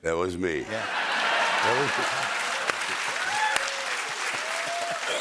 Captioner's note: laughter, cheering, and applause